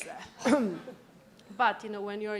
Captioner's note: laughter